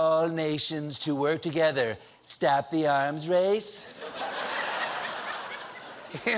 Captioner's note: laughter